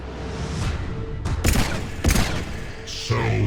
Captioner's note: dramatic orchestral music; lasers blasting